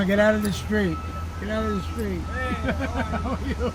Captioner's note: laughs